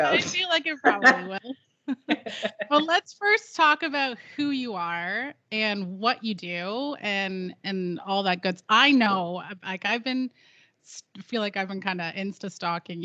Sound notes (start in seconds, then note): 0.7 both giggling; 0.7 giggling